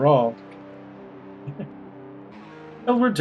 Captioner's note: laughs softly